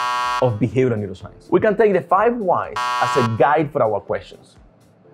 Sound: buzzer Sound: Wrong; buzzer Sound: Wrong

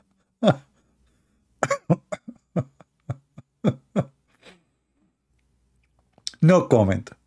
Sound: Ketawa

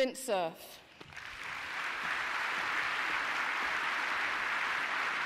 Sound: audience applauding

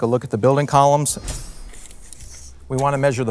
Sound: sword slicing

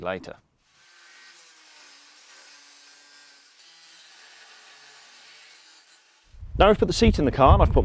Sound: grinding

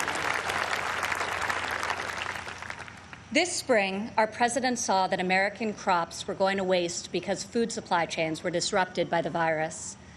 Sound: applause

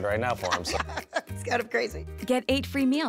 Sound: laughs

